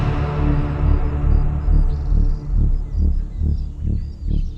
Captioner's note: birds tweet